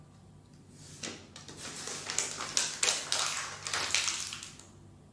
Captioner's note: packaging rustling